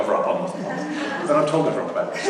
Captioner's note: laughter